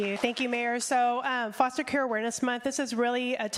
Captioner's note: applause